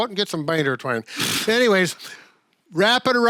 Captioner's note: blows a raspberry